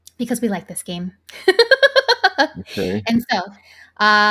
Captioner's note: laughs